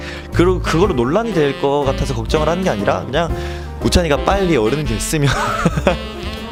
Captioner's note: laughs